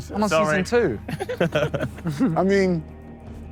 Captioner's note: Sidemen laugh